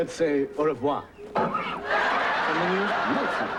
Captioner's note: horse hiccups